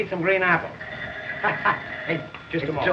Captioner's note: phone ringing